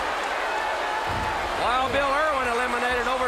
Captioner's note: crowd chatter